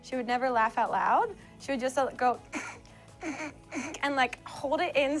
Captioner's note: suppressed laughter